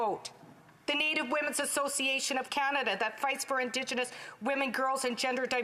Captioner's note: none